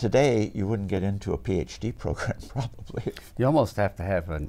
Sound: laughs

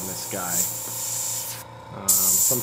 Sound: motor whirring

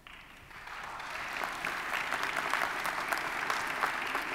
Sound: audience applauding

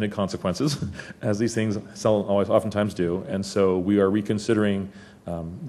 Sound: laugh

